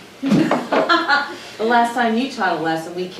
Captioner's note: Crystal laughing